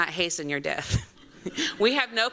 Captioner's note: laughter